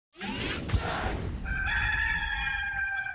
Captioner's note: whooshing